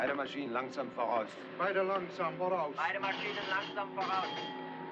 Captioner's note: ship's Telegraph Rings